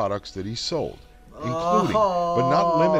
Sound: groans loudly

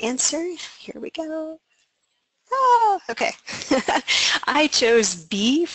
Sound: laughing

